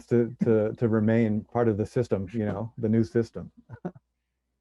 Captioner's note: chuckles